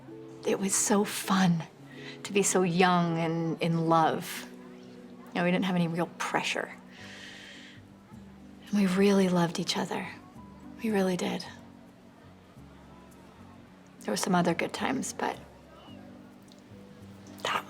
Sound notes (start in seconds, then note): none